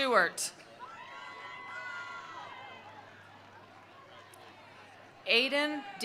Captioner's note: attendees cheering; attendees applauding